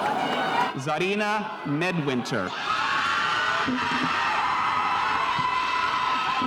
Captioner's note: spectators cheering